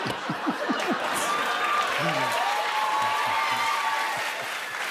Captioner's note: laughter; cheers and applause